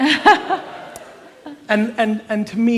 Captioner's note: laughter